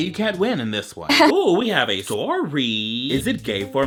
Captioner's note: mouth laughs